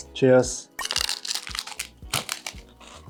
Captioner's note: the ultimate crunch